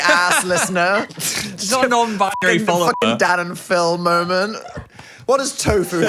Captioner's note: beep